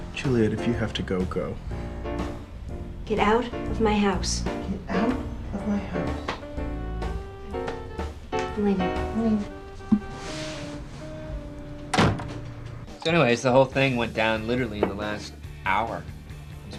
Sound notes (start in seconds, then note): 5.2 mocking voice; 9.7 mocking voice; 11.7 door slamming